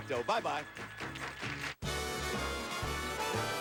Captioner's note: audience applauding